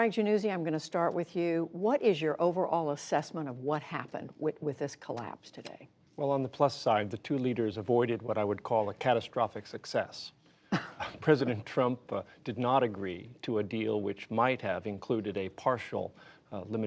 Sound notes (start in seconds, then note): 10.7 laughter